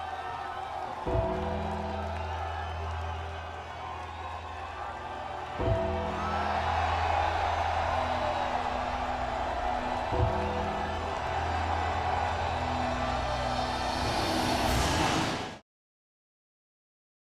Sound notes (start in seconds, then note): 1.2 bell tolls; 2.1 troops cheer; 5.6 bell tolls; 6.5 troops cheer; 10.2 bell tolls; 11.5 troops cheer; 14.1 intense music